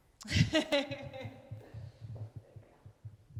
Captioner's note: chuckles